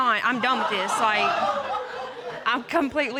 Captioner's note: audience laughing